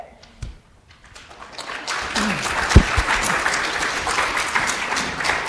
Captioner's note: audience applauds